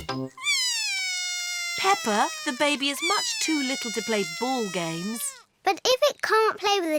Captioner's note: bawls